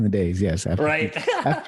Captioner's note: laughs